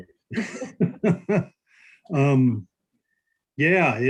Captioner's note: laughing